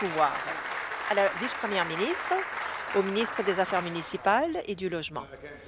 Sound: applause

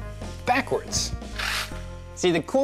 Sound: quick whirr

